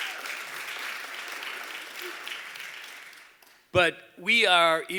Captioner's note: applause